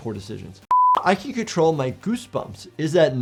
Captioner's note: screen beeping